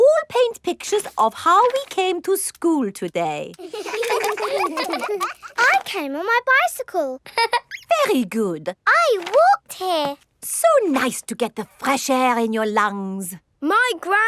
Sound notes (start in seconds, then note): 3.6 all laughing; 7.3 laughs